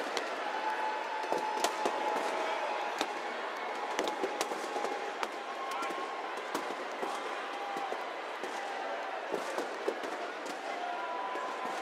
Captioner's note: cheers and applause